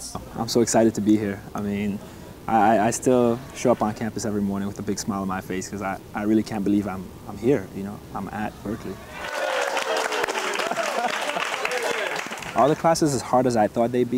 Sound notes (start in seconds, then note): 9.1 applause